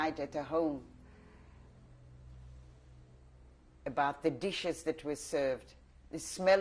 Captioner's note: pauses for 3 seconds